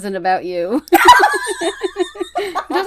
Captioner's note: laughs